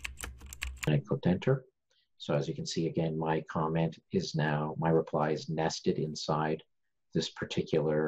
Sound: typing

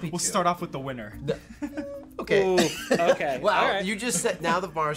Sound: laughs

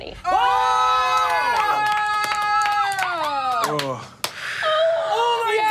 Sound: audience cheering

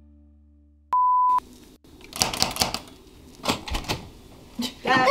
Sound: high pitched beep; laughter

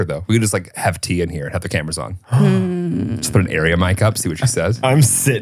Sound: laughs

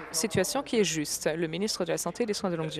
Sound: applause

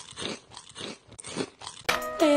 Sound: chewing

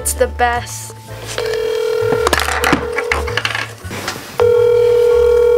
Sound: phone ringing

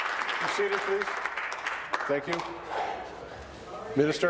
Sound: applause

